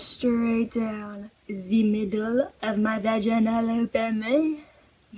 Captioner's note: french accent